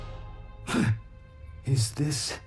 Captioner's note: gasps